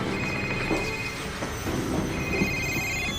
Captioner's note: phone ringing; suspenseful orchestral music